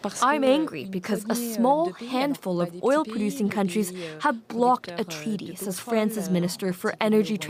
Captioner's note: speaking Alternate Language